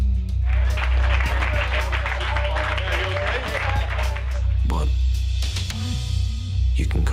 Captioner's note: applause